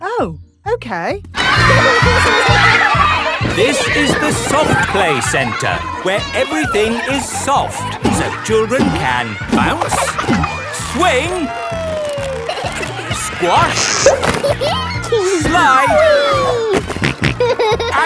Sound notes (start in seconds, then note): 4.0 loudly over shouting; 12.2 giggles; 16.6 snorting